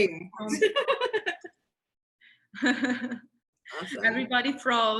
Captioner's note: both laughing